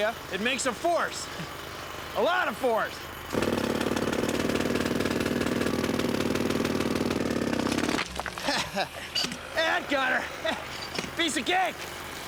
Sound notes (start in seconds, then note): 8.3 laughs